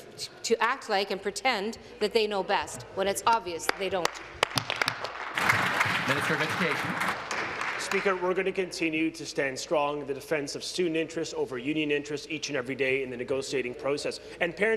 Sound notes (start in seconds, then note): 7.9 applause